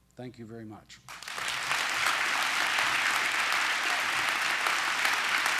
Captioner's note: applause